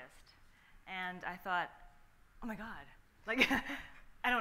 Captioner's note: laughs